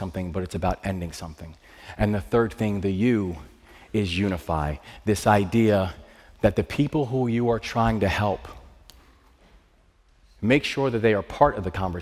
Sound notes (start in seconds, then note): none